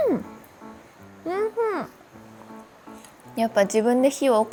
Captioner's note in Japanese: ハミング